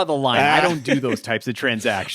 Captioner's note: laughing